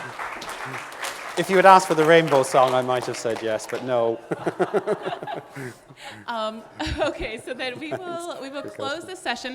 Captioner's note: audience laughing, clapping